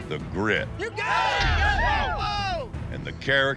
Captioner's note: cheering